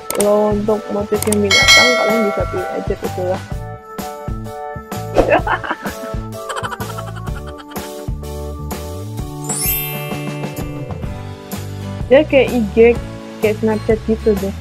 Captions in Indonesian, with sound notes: Untuk motif binatang, kalian bisa pilih aja (ketawa) Dia kayak IG, dan snapchat gitu deh.